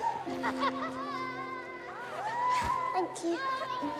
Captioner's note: indistinct chatter, cheering, laughing